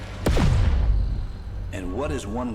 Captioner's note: laser booming